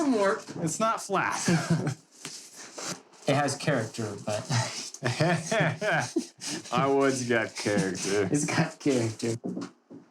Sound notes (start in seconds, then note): 4.3 laughing